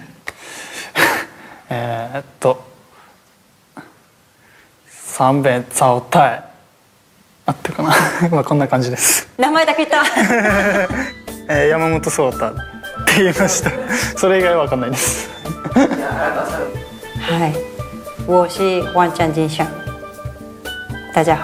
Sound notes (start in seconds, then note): 0.6 controls his breath; 10.0 laughs